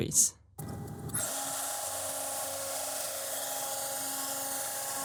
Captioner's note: CNC machine noise